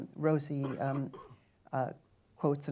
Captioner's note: coughing in the background